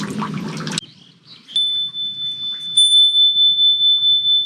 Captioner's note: vajra bell